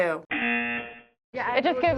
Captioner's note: buzzer